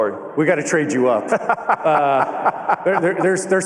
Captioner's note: laughter